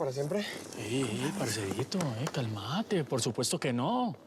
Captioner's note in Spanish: palmadas